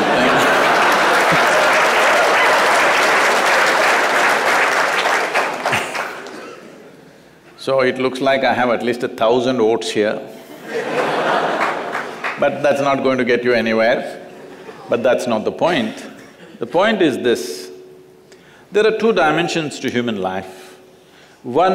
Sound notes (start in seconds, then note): 0.0 laughter/Applause; 10.4 laughter